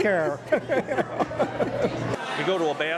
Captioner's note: laughter